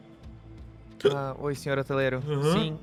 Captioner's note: hiccups